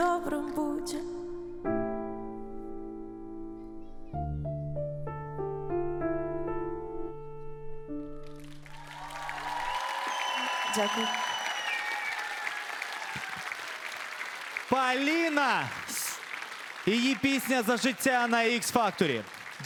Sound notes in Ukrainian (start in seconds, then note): 4.8 оплески